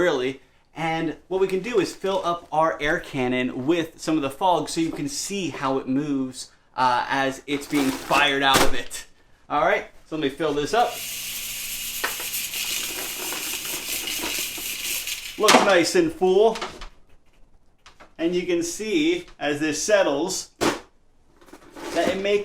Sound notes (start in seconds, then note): 10.8 fog hisses